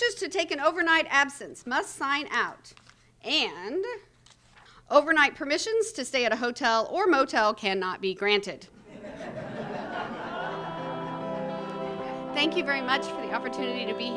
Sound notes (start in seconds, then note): 8.8 laughter